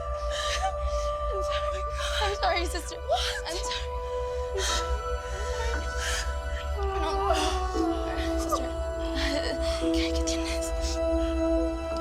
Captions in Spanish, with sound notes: - UJUM. I'M SORRY, SISTER. - WHAT?! - I'M SORRY. [Sollozos] - SISTER , ¿QUE? ¿QUE TIENE?